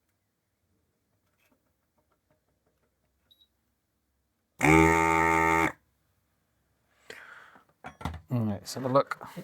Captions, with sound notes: (Drill Whirring) Let's have a look.